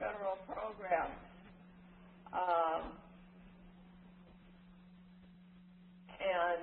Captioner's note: silence